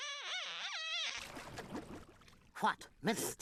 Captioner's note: water bubbling